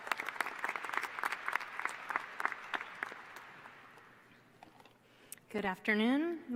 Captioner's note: applause